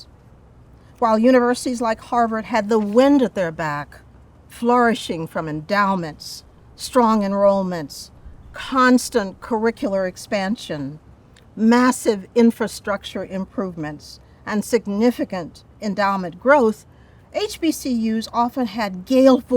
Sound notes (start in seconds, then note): none